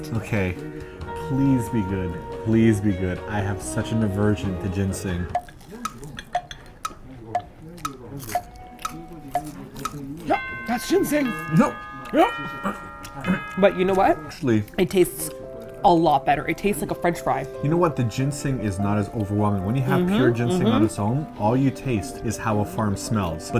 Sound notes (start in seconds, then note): 6.2 sound of clock ticking; 10.2 hoarsely